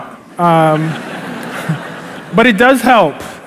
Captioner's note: laughter